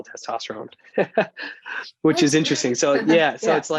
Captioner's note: chuckles